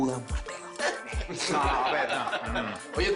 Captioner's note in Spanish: Risas